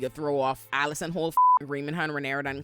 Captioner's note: beep